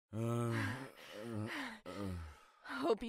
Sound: groans

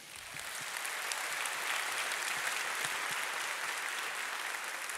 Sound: audience applauding

